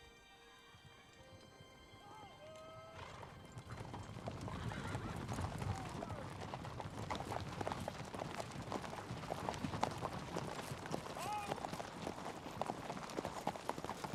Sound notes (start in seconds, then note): 4.1 hoofbeats